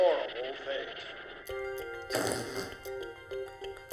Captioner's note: student farts